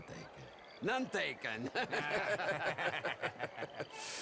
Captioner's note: laughs